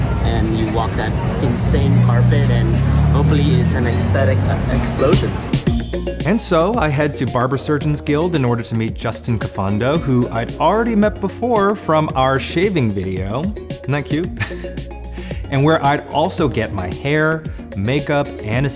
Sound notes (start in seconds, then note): 5.5 fun dance music; 14.2 chuckles